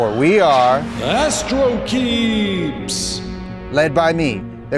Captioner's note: automated Voice